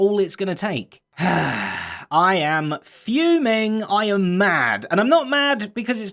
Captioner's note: angry sigh